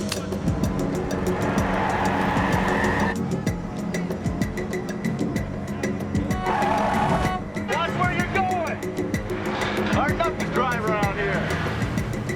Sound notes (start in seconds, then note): 2.5 tires screeching; 6.0 tires screeching, horn honking